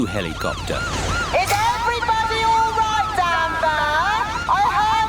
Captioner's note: over megaphone